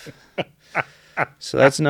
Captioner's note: laughs